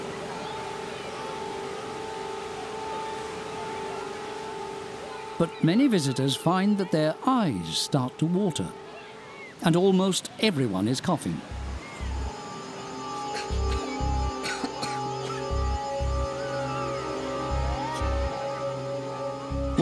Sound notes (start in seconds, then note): 0.8 kids playing and shouting; 14.3 coughing